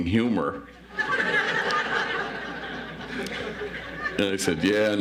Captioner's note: audience laughs